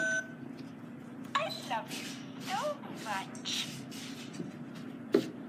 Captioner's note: electronic Voice